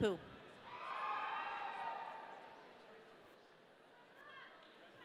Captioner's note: audience cheering